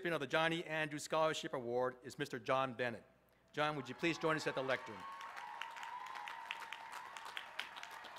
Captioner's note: applause